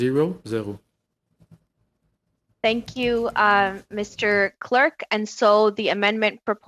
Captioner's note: speaking French